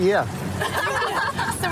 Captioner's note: laughter